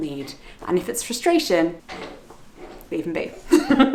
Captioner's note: laughs